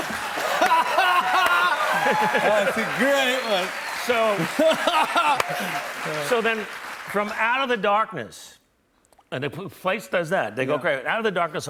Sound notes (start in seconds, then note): 0.0 laughter and applause; 0.0 cheers and applause; 4.4 laughs